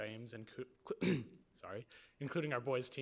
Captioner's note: clears throat